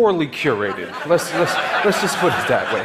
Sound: audience laughing

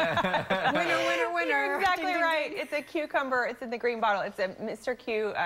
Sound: laughter

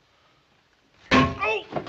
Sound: thunk

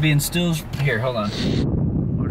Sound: static sound

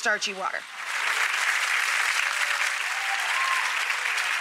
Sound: applause

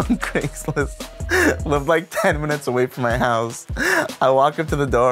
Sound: laughs

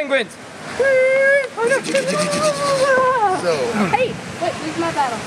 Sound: Pokémon makes weird sounds

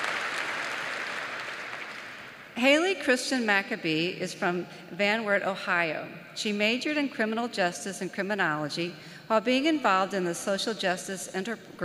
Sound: applause

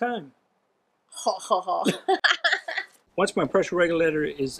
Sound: both laughing

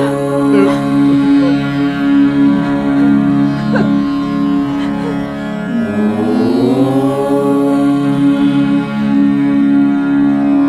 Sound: chants

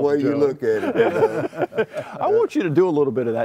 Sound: laughter

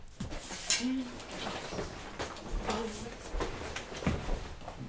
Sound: Marie muttering

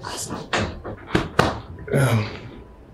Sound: hands smacking

